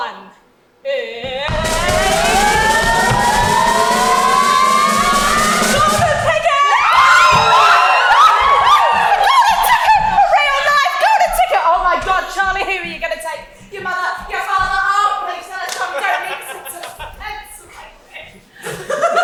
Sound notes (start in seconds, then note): 1.8 drumroll; 6.7 cheering